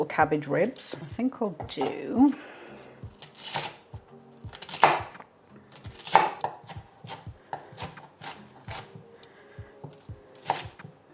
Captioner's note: chop chop chop